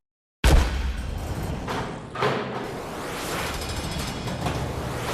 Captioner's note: doors clanking